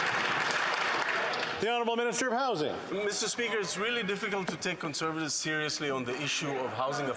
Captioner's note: some Applause